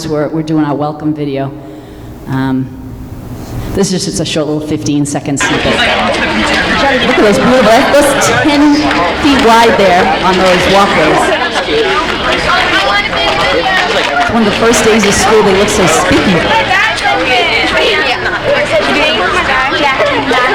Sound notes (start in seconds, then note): 5.7 chattering; 7.6 murmurs; 11.8 chattering; 17.9 chattering